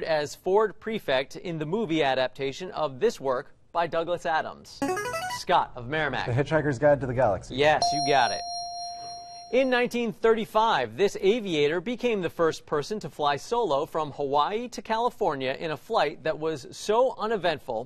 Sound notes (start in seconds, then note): 4.0 buzzer plays; 7.8 ding